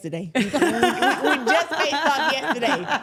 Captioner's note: everyone laughs